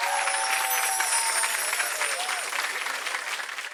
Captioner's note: chiming